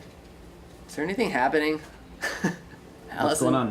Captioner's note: laughs